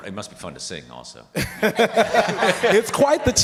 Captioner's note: participants laughing